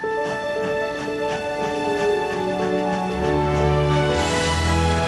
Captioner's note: train chugging